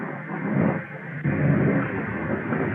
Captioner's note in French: tonnerre